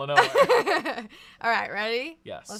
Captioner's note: laughs